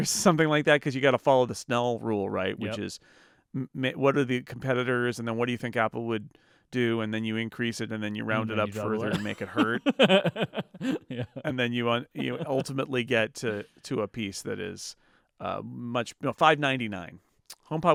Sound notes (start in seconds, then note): 8.7 laughing